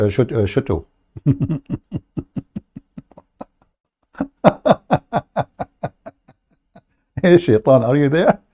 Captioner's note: Ketawa